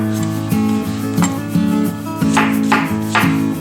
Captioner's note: chopping sounds